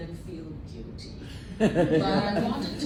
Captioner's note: laughter